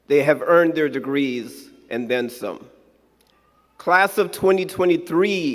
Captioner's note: none